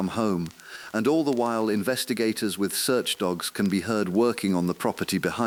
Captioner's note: exhale